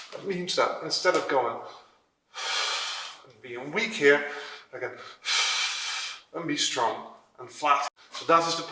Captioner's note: exhale